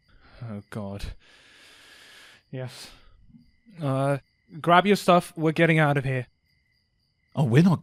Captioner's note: sighs deeply